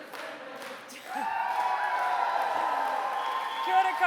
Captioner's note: chanting; cheering